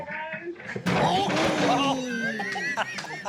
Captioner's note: laughter